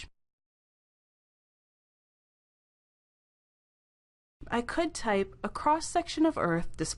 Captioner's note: brief silence